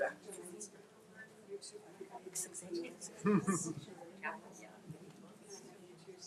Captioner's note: faintly speaking